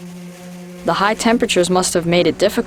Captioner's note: voiceover